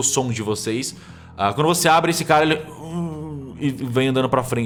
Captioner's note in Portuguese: gemidos